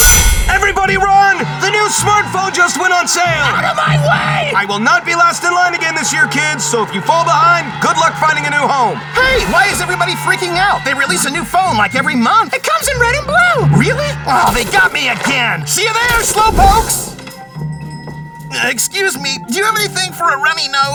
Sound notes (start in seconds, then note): 17.2 bell chimes